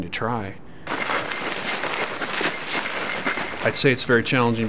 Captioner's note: boots crunching on ground